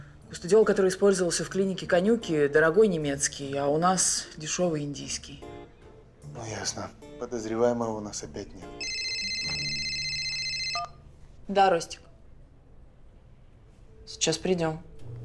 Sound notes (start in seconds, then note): 8.8 phone ringing